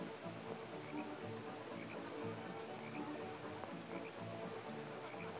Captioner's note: horses trotting